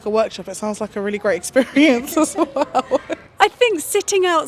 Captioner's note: laughs